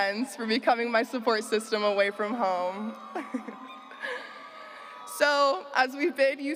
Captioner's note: laughs